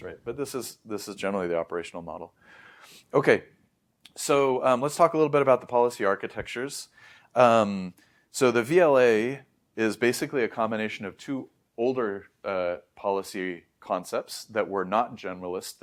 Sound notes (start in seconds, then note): 2.3 sniffs; 2.4 inhales